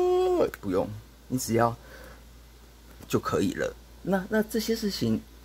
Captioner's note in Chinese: 深吸口氣